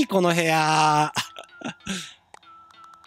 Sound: giggle

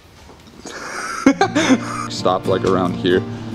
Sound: laughing

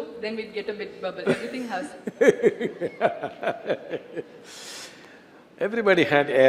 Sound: Sadhguru Laughs

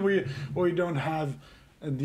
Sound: laughing

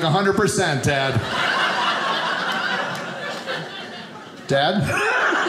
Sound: audience laughing

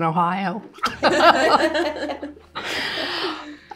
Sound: laughter

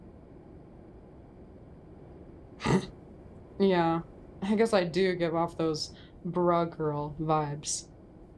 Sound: snorts

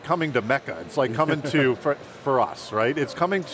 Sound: laughing

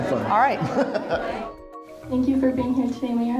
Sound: laughs

